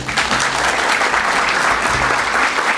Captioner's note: applause